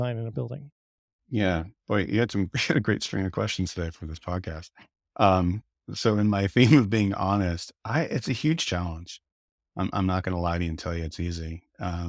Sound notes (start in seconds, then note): 1.6 laughs; 9.2 chuckling